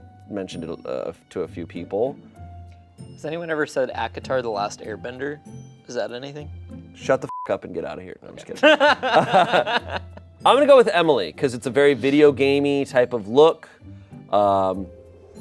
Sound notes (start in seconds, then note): 7.3 beep; 8.5 everyone laughs